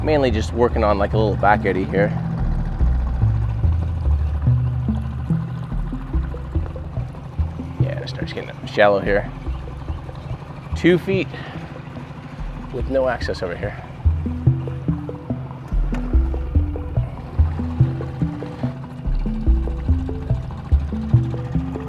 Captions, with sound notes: Mainly just working on a little back eddy here. Yeah, it starts getting shallow here. Two feet with no access over here. (boat engine droning)